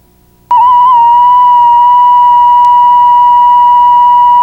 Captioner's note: high pitched hum